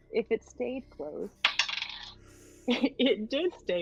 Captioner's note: dice clacking